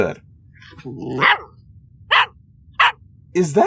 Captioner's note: barking